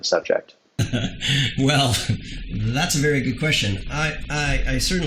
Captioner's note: laughs